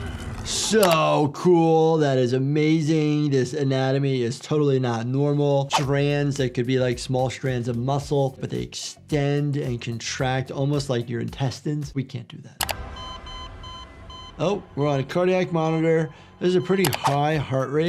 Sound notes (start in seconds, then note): 12.6 cardiac monitor beeping